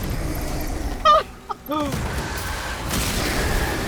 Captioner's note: giddy laughter because it's raining Zombiemen